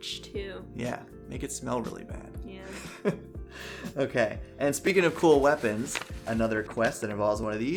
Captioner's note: laughs